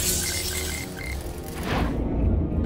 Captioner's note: beeping